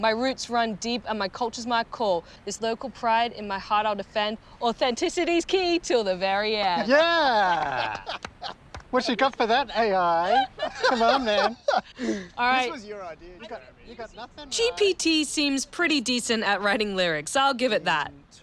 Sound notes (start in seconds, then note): 6.7 laughs; 9.2 both laugh